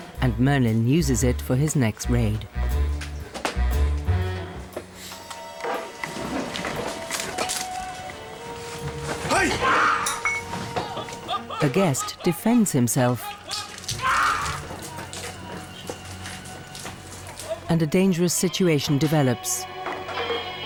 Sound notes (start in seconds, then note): 3.9 dramatic music; 9.3 Merlin screeches